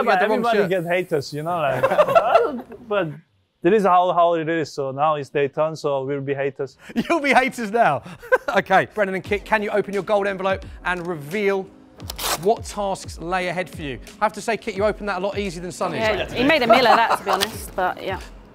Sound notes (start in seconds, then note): 1.7 laughter; 16.5 laughter